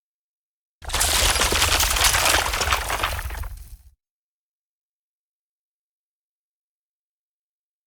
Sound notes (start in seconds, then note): 0.8 logo shattering